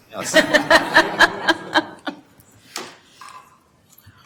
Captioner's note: everyone laughs